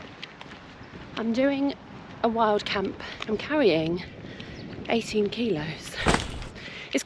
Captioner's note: heavy dropping sound